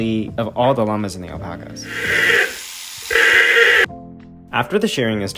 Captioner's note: llama screaming